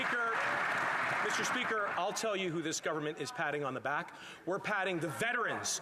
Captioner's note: applause